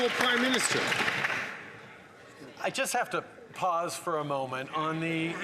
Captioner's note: some Applause